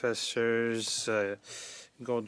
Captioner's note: speaking French